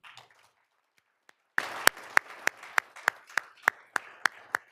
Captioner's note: all applauding